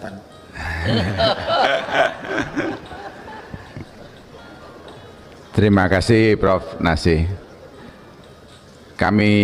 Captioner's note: laughs